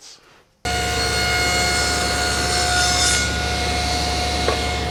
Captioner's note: table saw blade cutting